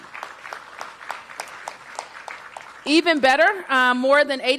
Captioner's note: applause